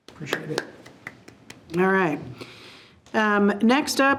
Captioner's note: applauding